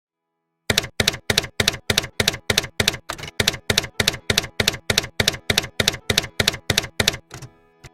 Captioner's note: typewriter keys clacking